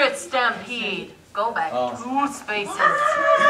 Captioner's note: rhinoceros noises